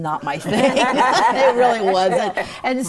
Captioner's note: all laughing